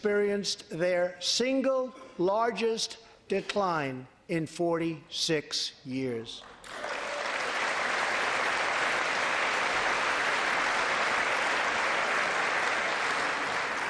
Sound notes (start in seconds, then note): 12.1 applause